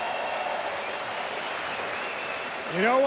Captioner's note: crowd cheering